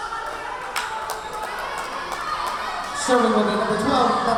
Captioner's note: yelling